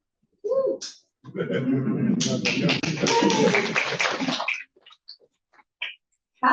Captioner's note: applause and cheering